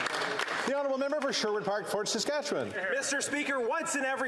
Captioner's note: applause